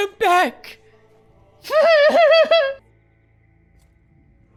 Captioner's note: laughing